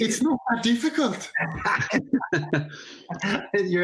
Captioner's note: laughter